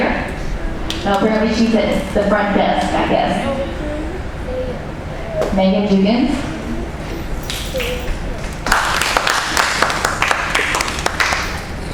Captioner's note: applause